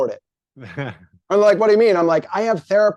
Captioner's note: chuckles